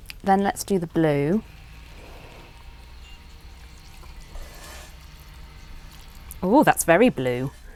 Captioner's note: drizzling